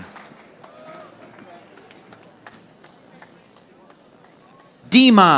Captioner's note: audience applauding